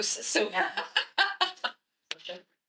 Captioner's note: laughs